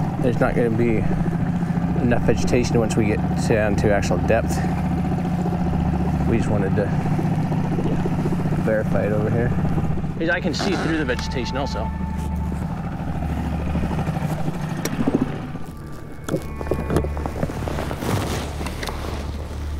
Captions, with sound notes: There's not gonna be enough vegetation once we get down to actual depth. We just wanted to verify it over here. Because I can see through the vegetation also. (boat motor hums) (somber music)